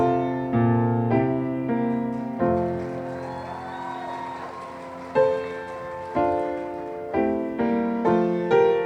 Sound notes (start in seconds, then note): 1.9 audience applauding; 2.0 audience whooping